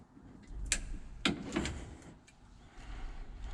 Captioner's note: clicking